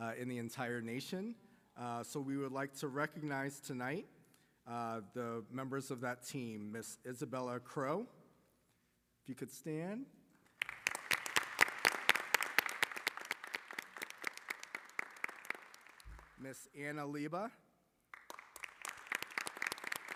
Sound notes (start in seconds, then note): 10.5 applause; 18.1 applause